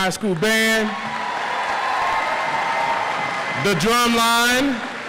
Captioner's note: audience applauds